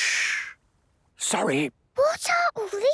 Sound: whispering; quietly

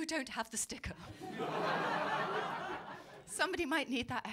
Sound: laughter

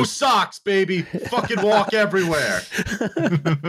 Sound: laughter

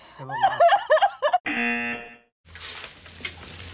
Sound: snorts and laughs; buzzer

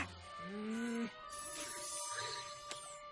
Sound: groans

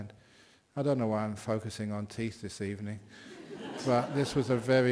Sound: laughter

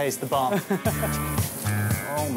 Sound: laughing; upbeat music

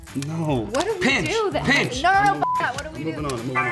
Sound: beep

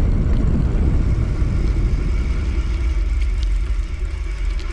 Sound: brakes grinding

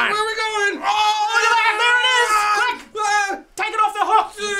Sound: screaming excitedly

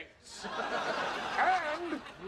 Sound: audience laughing

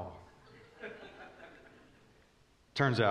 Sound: congregation chuckling

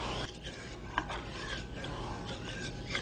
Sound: stirring sounds repeat

